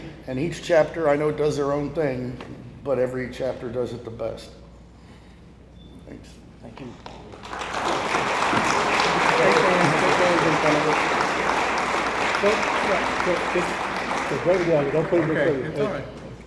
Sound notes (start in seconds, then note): 7.4 audience applauds; 9.9 people chatter indistinctly